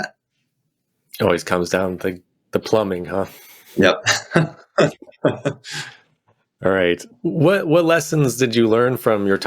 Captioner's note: chuckles